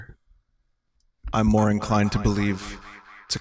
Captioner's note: echoing